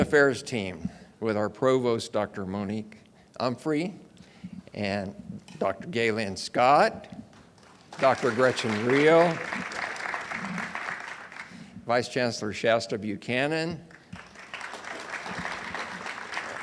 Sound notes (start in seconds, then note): 11.0 audience applauds; 16.4 audience applauds